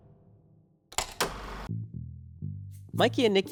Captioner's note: film reel clacking